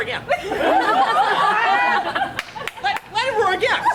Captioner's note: audience laughs